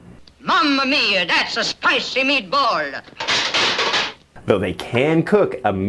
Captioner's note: metal clanging from the oven door falling in the background